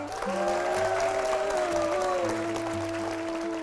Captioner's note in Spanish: Aplauso